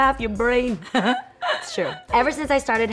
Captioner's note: laughs